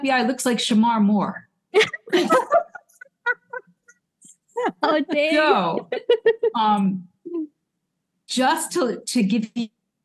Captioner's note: laughter